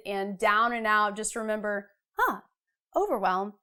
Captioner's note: exclaims realization